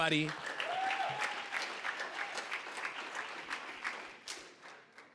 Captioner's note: applause